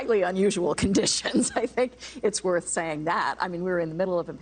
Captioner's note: laughter